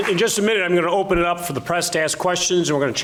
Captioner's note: applause